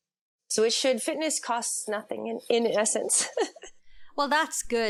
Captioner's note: laughs